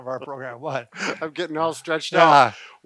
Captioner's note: both laugh